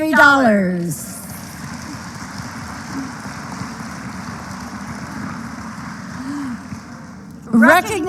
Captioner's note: applause